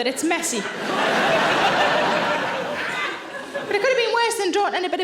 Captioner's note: audience laughing